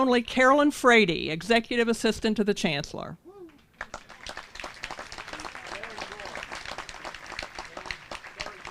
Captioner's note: applause